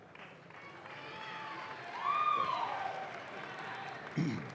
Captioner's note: audience claps